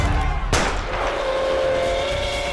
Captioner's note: crowd cheering; train whistle; gunshot